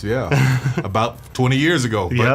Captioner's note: laughs